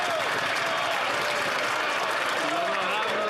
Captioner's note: some Applause